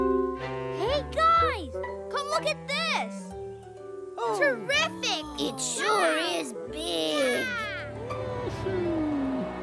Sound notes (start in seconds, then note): 7.2 giggles